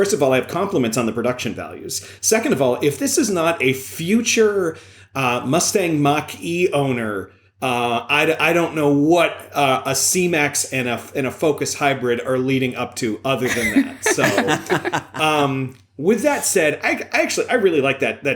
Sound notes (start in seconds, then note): 13.4 laughter